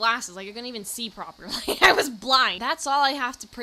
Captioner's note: laughing